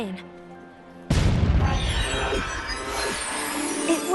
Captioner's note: boom!